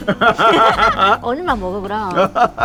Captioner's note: both laughing